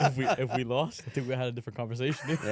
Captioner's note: laughs